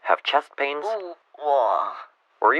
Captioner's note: chest pain sounds